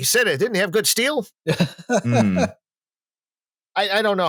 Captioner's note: laughs